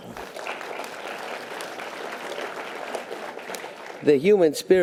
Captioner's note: audience applause